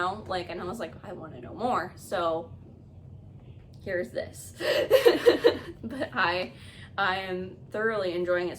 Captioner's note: nervous Laugh